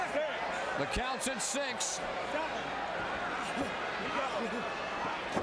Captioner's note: crowd chattering